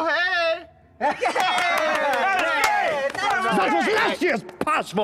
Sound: everyone laughs

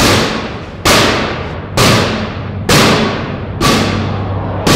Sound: banging

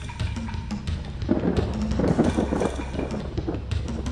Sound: thunder crackles

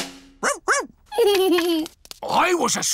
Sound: drumroll; giggles

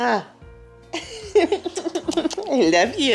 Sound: chuckling

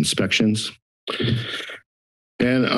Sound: inhales

